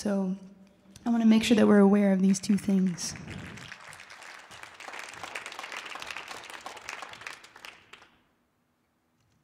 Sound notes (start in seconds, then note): 3.0 audience applauding